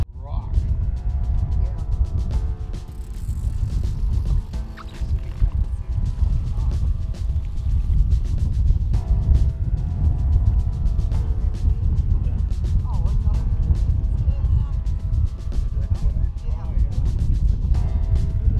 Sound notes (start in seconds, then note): 6.1 line reeling; 6.1 wind blowing